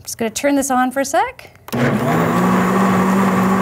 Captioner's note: blender whirring